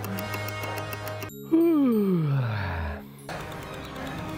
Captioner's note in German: Uhren-Ticken; Er gähnt